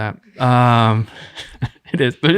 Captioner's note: chuckling